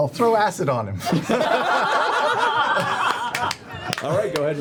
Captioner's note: laughter